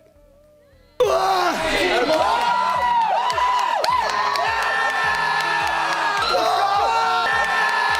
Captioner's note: male screaming